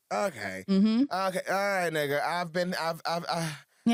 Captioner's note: sighs